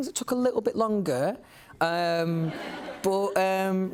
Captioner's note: laughter